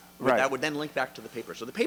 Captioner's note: voiceover